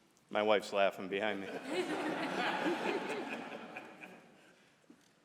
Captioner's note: laughter